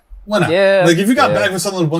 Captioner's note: hesitantly